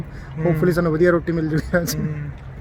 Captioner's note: laugh